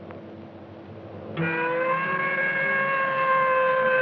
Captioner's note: siren blaring